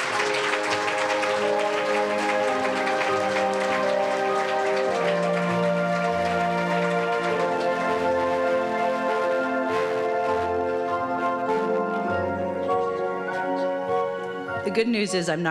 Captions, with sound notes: (Applause) The good news is I’m not going to sing. I may have met Lady Gaga, but I’m not going